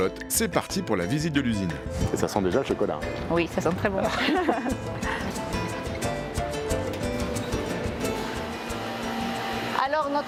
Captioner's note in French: rires